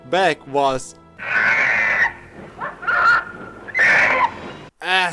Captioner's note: donkey screeching